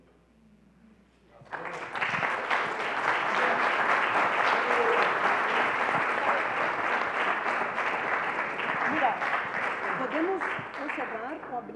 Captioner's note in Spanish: Aplausos